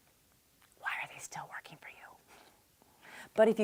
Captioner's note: whispers